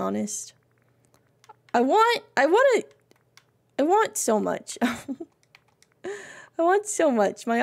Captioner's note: laughs